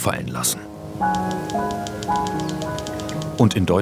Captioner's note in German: Schreibmaschinengeräusche, düstere Musik